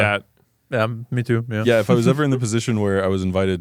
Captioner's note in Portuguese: risos